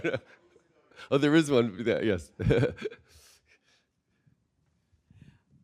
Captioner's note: chuckles